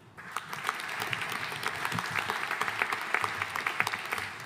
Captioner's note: audience applauding